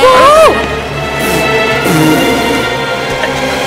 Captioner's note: Lips trills